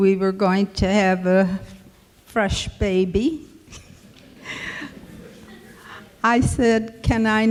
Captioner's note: chuckles